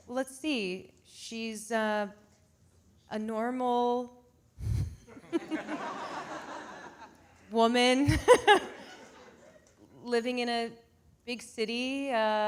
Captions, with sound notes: Well, let's see, she's a normal (audience laughing) woman living in a big city.